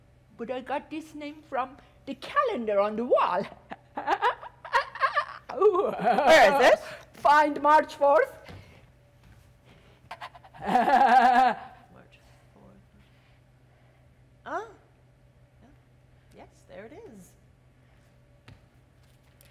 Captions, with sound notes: But I got this name from the calendar on the wall. (Sharik softly laughing) Where is it? Find March 4th. (Sharik softly chuckling) March 4th, March 4th. Oh, yes, there it is.